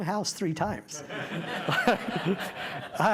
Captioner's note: laughter